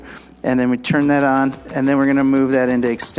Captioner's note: ArthroStim rapidly clicking